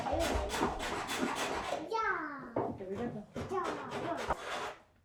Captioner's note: children chattering